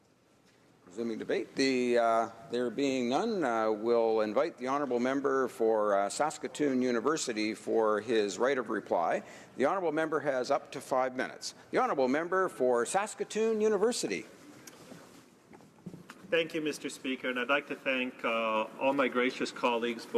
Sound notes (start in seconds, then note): 3.8 speaking French